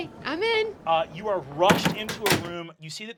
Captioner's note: sound of door closing